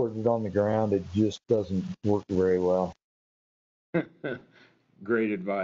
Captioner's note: chuckles